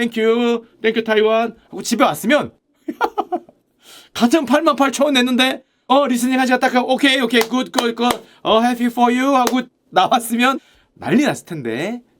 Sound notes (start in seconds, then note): 2.8 chuckes